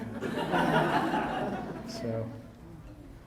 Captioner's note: audience laughing